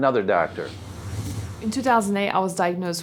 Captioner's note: whooshing